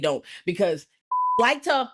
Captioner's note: beep